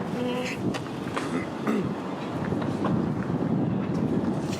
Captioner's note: wind blowing